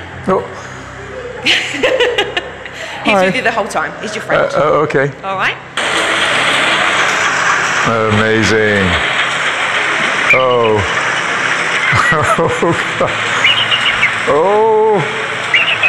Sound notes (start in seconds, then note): 1.1 rep laughs; 6.1 rollercoaster rattles